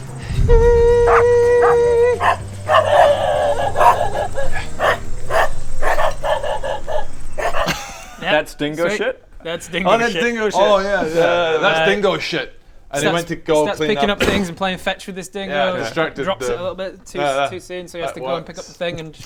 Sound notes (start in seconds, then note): 2.1 bark; 2.6 distracting barking and howling; 5.7 still barking